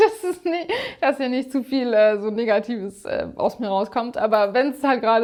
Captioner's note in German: gelächter